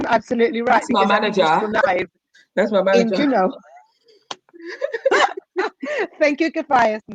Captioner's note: chatter